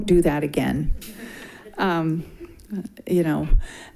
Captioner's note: group laughing